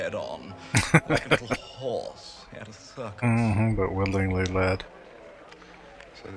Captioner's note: laughing